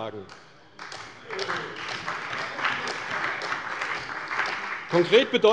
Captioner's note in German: Beifall bei der CDU und dem BÜNDNIS 90/DIE GRÜNEN